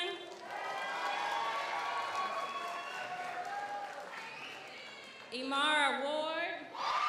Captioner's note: audience applauds; audience cheers